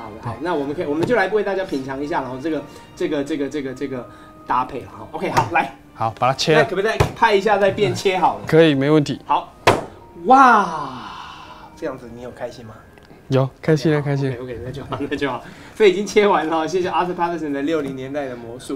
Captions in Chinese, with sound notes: 那我們可以，我們就來為大家品嚐一下這個搭配 ok，好，來 好，把他切了 那可不可以再拍一下，再變切好了 可以，沒問題 （啪！） 哇！這樣子你有開心嗎？ 有，開心了開心了 -okok那就好 所以已經切完了，謝謝Arthur Paterson的60年代的魔術